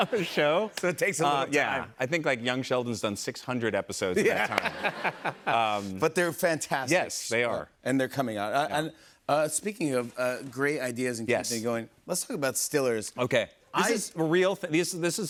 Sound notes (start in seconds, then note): 4.1 laughter